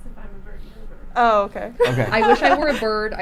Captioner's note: laughing